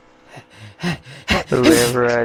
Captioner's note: sneezing